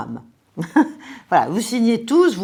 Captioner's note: laughter